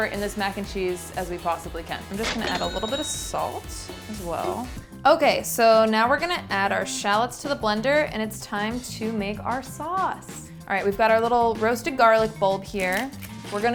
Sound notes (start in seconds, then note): 2.2 cash register chimes